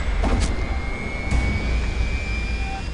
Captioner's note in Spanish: Disparos